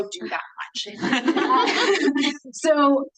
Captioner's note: attendees laughing